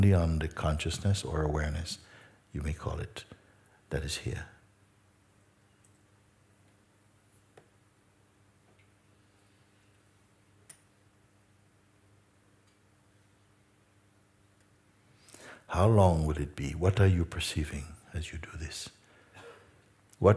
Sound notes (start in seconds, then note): 4.7 Stille